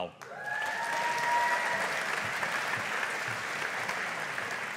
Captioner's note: audience applauding